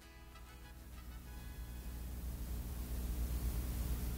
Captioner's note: static hums